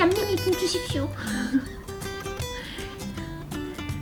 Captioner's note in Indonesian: tertawa